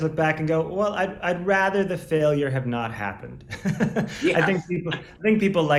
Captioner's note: laughs